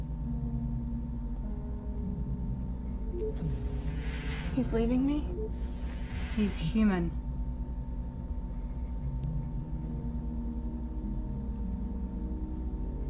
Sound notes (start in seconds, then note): 0.2 soft dramatic music; 3.2 door beeps and whooshes